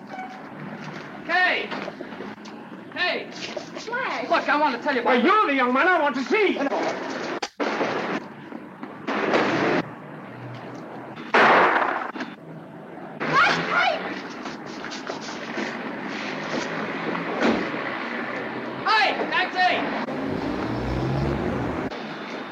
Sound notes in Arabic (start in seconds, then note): 11.3 انفجارات الأسلحة; 13.3 يصرخ كاي; 19.6 هدير المحرك